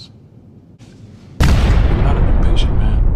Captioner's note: explosion